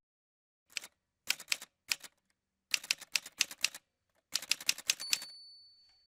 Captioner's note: typewriter sounds